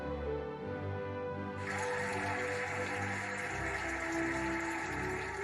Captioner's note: cheering and applauding